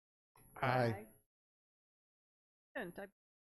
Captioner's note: in Unison